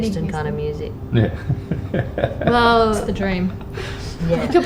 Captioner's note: laughs